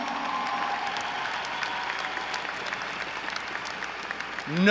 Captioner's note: audience cheering